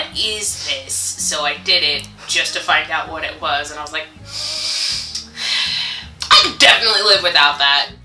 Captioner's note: sighs